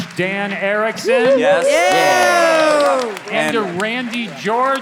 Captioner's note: all applauding